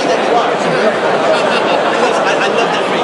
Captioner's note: crowd laughs